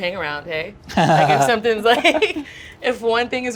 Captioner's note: laughing